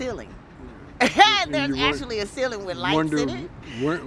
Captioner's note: laughs